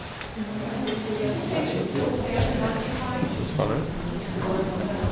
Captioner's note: audience chattering